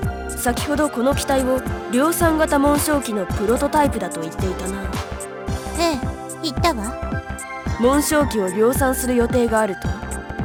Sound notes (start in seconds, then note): none